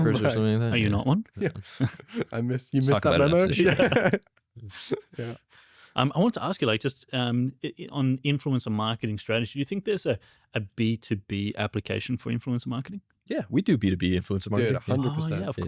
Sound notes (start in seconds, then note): 0.0 laughs; 3.4 laughs